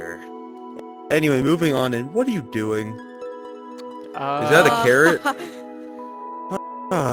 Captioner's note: laughter